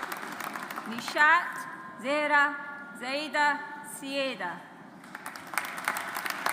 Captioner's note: audience applauds